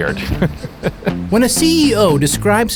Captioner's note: chuckles